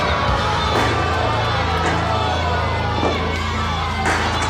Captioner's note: loud chair bang; audience boos